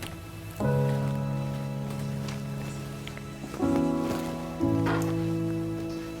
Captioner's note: somber music; door rattles